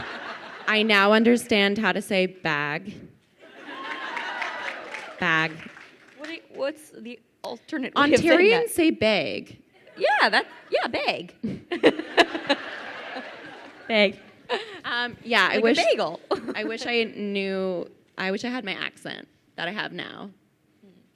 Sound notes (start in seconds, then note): 0.0 crowd laughing; 3.4 crowd laughing; 11.4 laughs; 11.6 crowd laughing